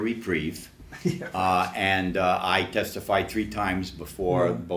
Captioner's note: laughs